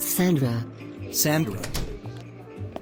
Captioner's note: door closing